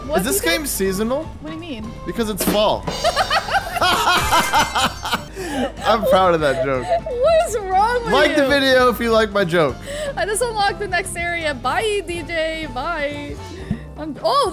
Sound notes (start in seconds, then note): 3.0 DJ laughing